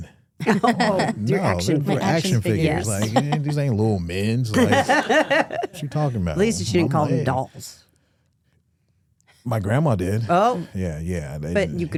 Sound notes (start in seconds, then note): 4.5 hosts laughing